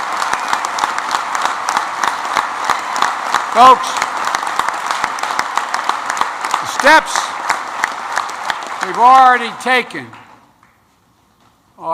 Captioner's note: applause